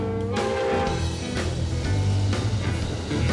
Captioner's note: train whistle